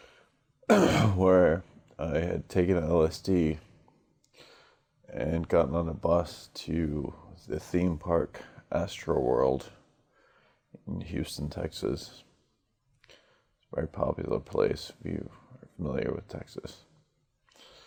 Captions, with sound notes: (COUGHS) where I had taken L.S.D. and gotten on a bus to the theme park, Astro World in Houston, Texas it's a very popular place, if you are familiar with Texas